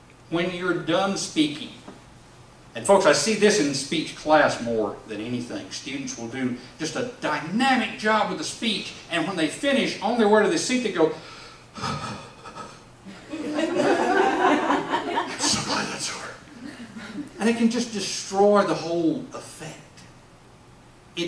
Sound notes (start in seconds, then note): 13.0 laughing; 14.0 exhale noise; 17.3 whispering